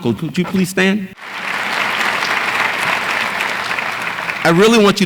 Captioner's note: audience applauds